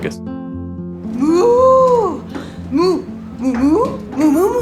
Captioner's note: mooing